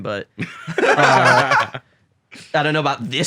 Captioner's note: laugh